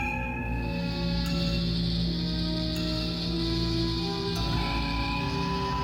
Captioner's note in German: Transportersummen